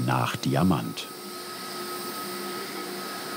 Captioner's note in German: Maschinengeräusche